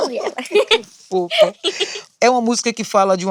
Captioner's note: laughs